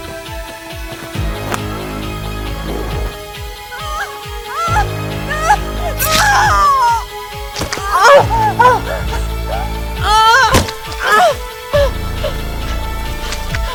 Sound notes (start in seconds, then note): 0.1 dramatic music; 5.1 Caroline screaming; 8.1 dramatic music; 10.2 Caroline moaning